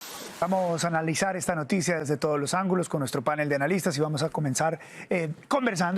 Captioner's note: HABLA EN INGLéS